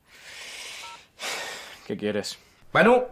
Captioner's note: sighs